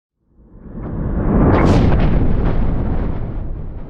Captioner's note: rumbling